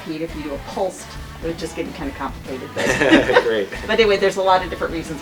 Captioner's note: laughter